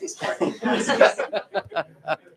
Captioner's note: laughter